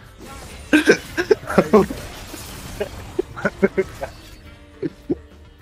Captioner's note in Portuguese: risos